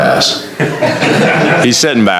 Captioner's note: laughter